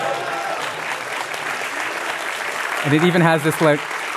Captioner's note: applause